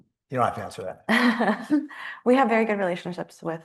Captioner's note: laughing